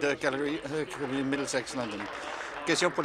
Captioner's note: applause